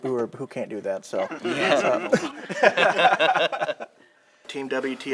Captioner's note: laughter